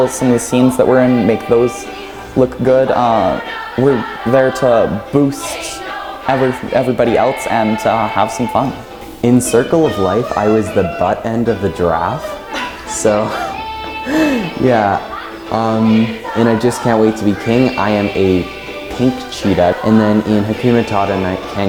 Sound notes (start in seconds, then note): 15.0 laughs